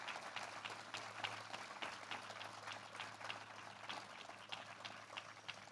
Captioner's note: applause